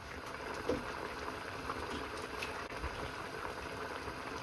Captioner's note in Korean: 보글보글